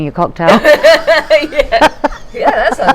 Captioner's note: laughing